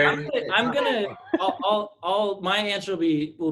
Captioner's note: laughs